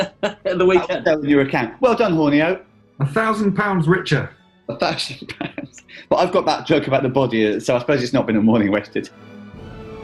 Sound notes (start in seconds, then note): 0.0 chuckling; 4.8 laughing